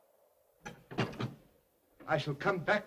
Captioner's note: door closes